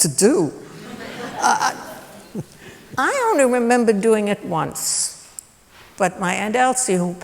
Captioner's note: laughter